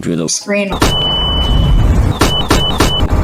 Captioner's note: flashbang